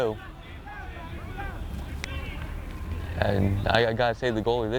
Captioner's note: players shouting